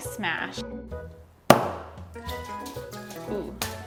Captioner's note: hammer banging